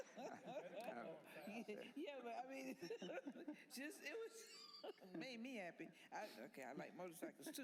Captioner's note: laughter